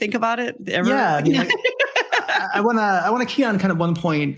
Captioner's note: laughs